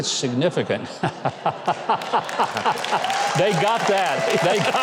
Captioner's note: everyone laughing